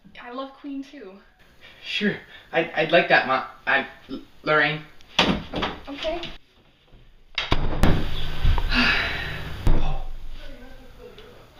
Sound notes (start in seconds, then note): 7.4 door closes; 8.6 Lorraine sighs-- her affection evident